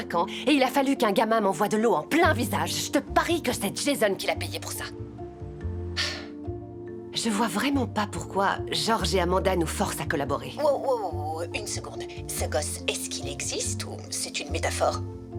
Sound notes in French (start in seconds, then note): 5.9 soupir